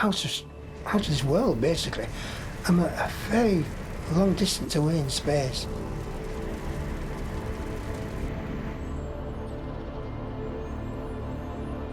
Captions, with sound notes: I'm a very long distance away in space. (fire whooshing) (mysterious music)